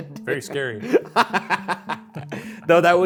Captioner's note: laughs